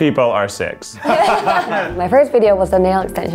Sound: laughter

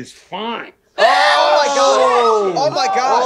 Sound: everyone exclaiming

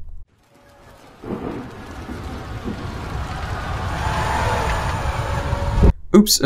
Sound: screams of the damned

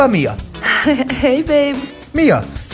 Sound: chuckles

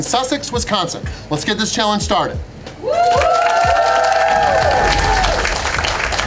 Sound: crowd

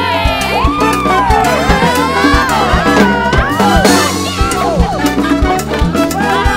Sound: excited shouting

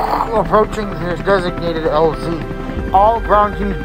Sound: radio Voice

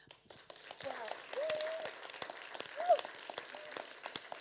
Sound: audience applauding

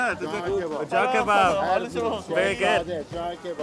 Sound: speaking foreign language

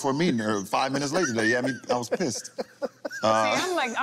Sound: laughing

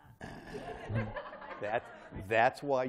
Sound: laughter

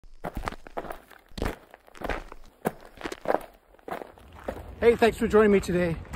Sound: footsteps on gravel crunching

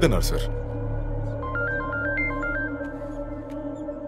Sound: phone Ringing

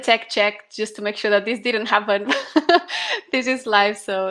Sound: laughter

